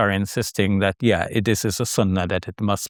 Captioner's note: speaking Arabic